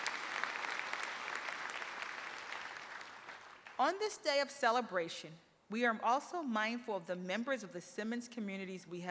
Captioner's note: applause